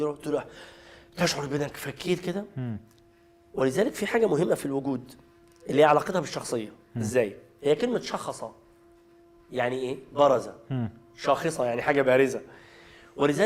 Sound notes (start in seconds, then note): 9.0 in Arabic